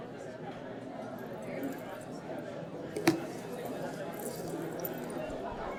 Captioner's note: indistinct student chatter